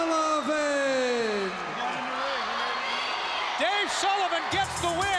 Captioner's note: crowd chatter